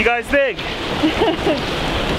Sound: laughing

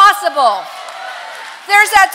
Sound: congregation applause

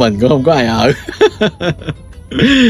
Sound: Tiếng cười; laughter

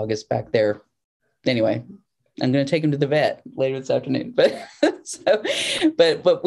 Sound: laughter

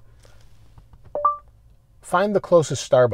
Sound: chime sound from the stereo

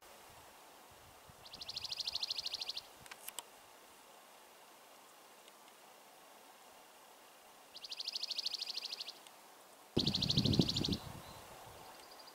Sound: birds singing & other nature sounds

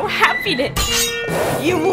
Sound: swords clashing

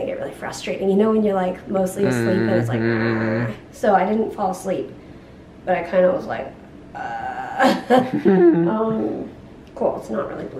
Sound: both laugh

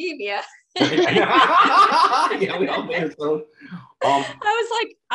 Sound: everyone laughs

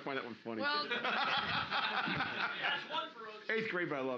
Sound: loudly laughing

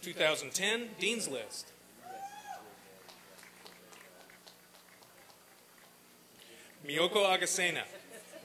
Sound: applause and cheering

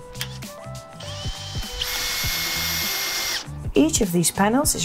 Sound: tool whirring

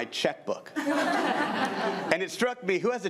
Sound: crowd giggling

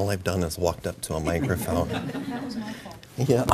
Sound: laughter

